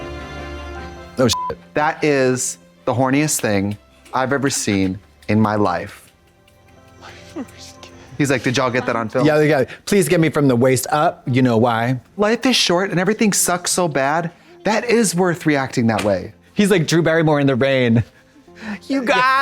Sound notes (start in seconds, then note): 1.3 beep